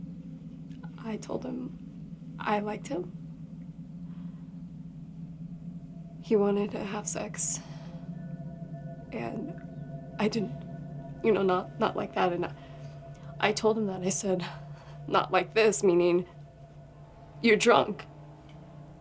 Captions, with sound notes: I told him I liked him. (tense music) (crickets chirping) He wanted to have sex, and I didn't. You know not, not like that and not, I told him that. I said, not like this meaning you're drunk.